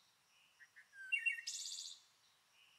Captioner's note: more chirping